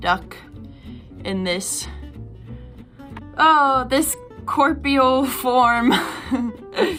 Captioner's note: chuckling